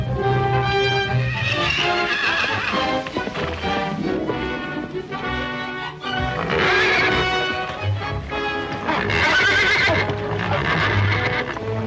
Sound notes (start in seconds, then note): 0.6 horse neighing